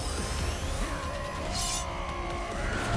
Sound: roaring

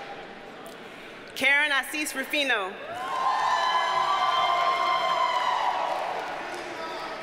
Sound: audience cheers and applauds

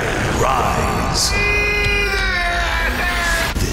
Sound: screaming

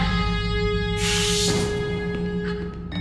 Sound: door whooshed open

